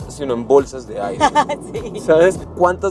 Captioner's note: laughter